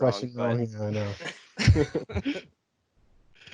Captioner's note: all laugh